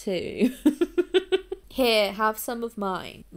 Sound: laughs

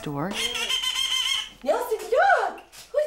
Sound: blows duck call

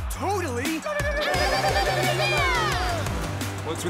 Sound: yipping

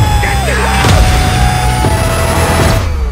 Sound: screaming

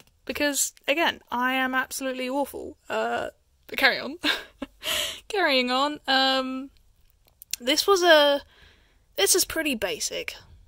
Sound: chuckles

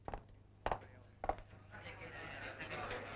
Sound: none

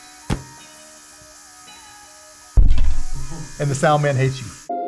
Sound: air pump whirring

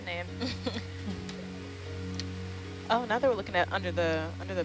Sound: woman laughing

